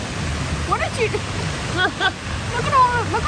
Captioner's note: laughs